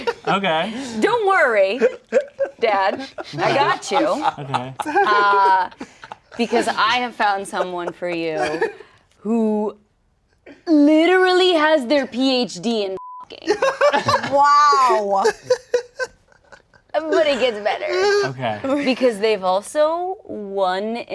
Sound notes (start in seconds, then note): 13.0 beep; 13.5 laughing